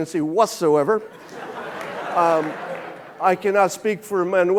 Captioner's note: audience laughing